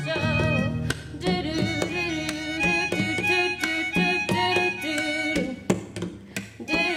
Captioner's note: humming; instrumental music